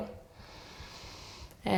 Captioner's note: inhaling